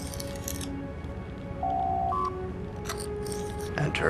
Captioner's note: door Chime